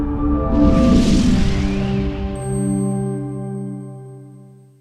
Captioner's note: upbeat swooshing sound